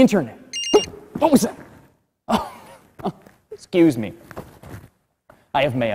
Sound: phone rings; laughter

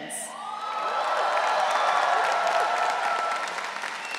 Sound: audience cheering

